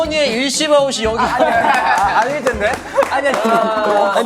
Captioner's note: laughing